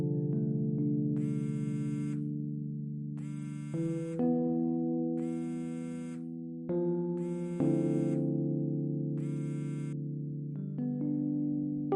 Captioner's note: phone ringing